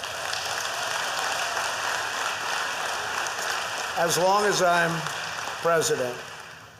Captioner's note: applause